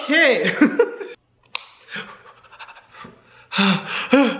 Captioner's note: Hyram giggling